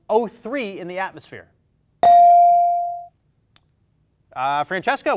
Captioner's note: bell dings